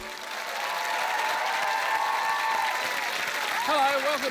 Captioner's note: cheering, applause